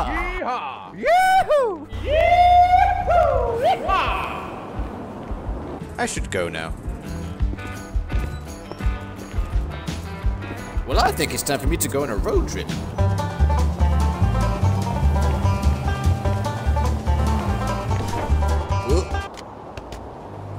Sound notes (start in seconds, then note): 1.9 echoes; 11.1 slight country accent